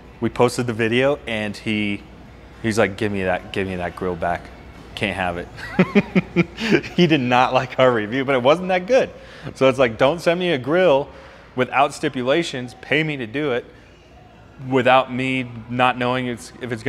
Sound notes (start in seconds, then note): 5.6 laughing